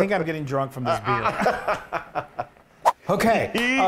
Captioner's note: laughing